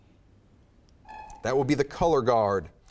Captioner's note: timer buzzes